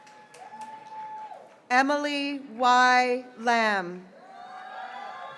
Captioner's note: graduates cheering